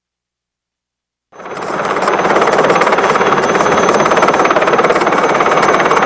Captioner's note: plane engine roaring